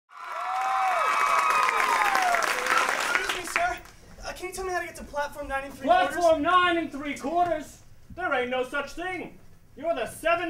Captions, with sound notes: [applause, cheers] Excuse me, Sir. Can you tell me how to get to platform nine and three-quarters? Platform nine and three-quarters? There ain't no such thing.